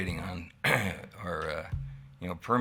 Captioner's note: clears throat